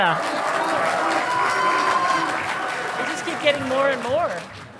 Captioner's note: audience applauding